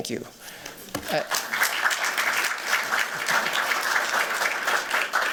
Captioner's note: applause